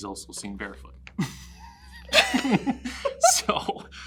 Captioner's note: laughs